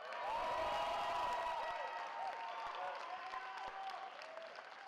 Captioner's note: cheering